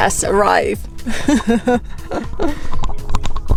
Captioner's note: laughs